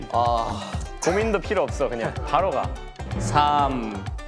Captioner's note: confident